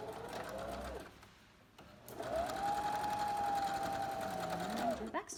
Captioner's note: sewing machine hums